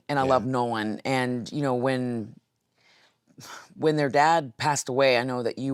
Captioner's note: sighs